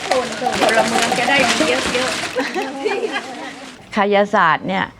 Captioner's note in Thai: เสียงหัวเราะ